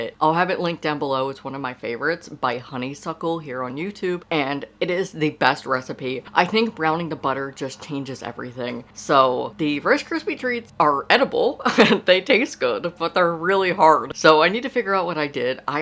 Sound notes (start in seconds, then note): 11.5 laughs